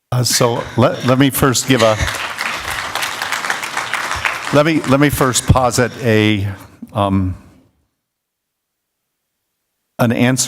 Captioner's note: applause